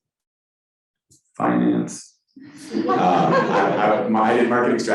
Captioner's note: crowd laughing